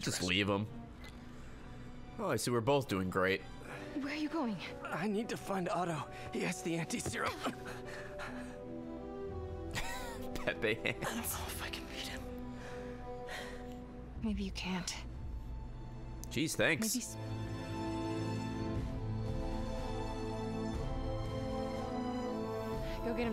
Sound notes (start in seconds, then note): 9.7 laughs